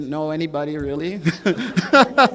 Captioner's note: laughter